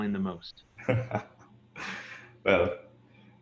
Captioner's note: laughs